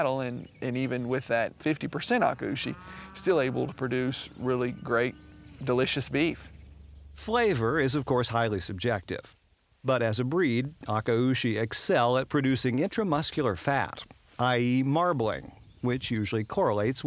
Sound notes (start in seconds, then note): 7.3 voiceover